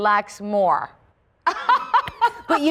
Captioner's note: laughter